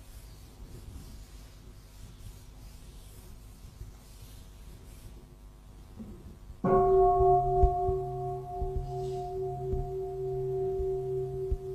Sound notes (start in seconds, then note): 6.7 bell